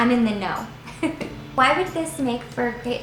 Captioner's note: laughs